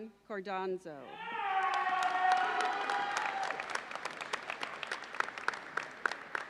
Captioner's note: audience cheers and applauds